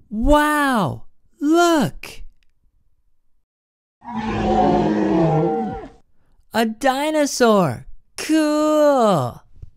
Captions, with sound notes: Wow! Look! (dinosaur roar) A dinosaur, cool!